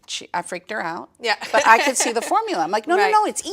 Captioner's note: laughs